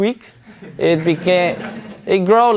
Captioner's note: audience laughs